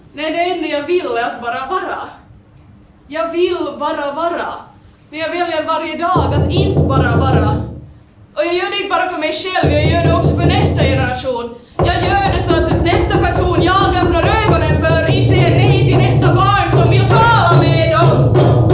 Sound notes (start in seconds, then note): 6.1 knocking sound; 11.7 knocking sound; 11.7 more, louder knocks